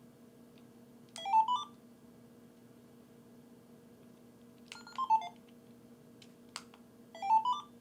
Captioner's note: toy beeping